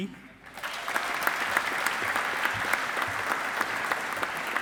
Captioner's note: audience applauding